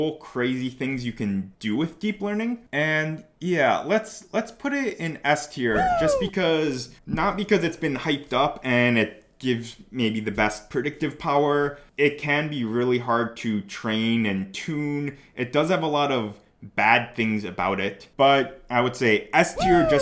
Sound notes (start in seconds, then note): 5.7 man cheering; 19.5 man cheering